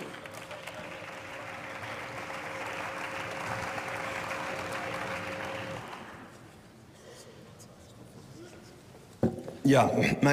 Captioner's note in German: Beifall